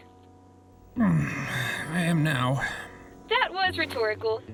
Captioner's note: groaning